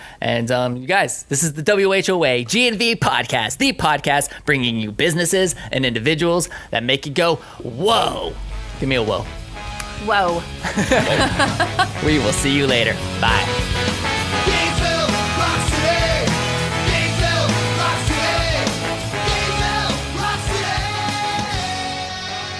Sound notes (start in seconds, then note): 10.6 laughter; 14.0 rock music